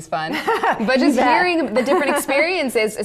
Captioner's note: laughs